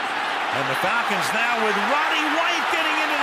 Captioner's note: cheering